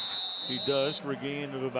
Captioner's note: whistle